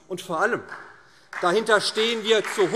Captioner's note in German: Beifall SPD